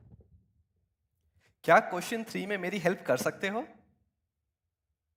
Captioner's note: speaking hindi